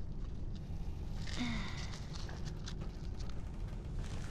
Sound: sighs

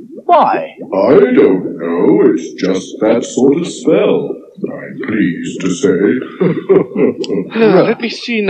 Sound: chuckles

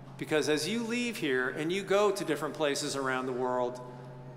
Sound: none

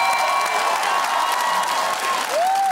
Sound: cheering

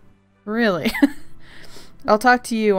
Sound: laughs

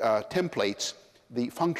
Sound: none

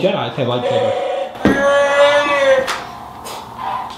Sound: moaning

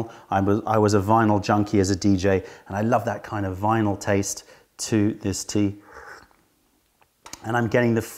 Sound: sips tea

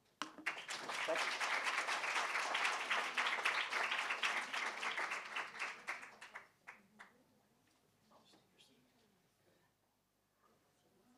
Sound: applause

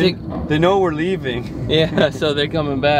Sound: laughing

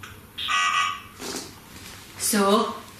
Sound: Ovilus buzzes

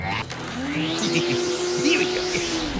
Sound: chuckling

